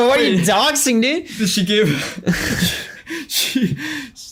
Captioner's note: laughs